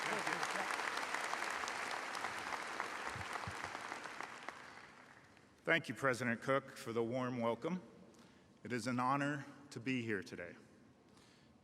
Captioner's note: applause